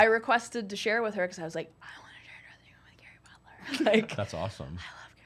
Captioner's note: whispers